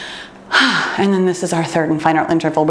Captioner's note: exhales deeply